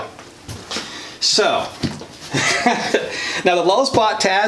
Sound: laughs

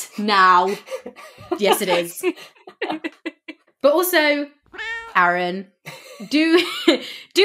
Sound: laugh; laughs

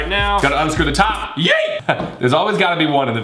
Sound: shouts

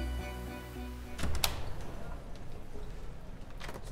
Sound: door opens

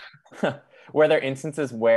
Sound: all chuckles

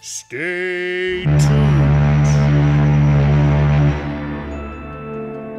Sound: loud ships horn

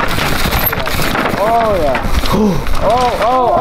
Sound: crowd; crowd

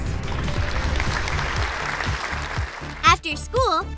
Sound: applause

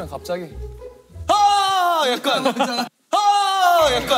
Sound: screaming

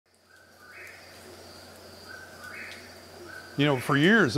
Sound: whippoorwill Calls

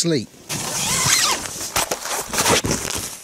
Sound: tent zips

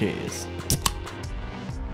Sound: tasty beverage opening

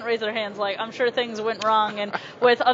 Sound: laughs

